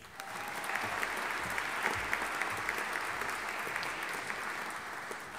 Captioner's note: audience applauding